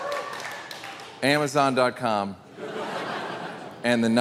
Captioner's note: audience applauding; audience laughing